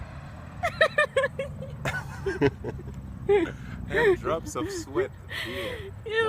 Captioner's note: laughs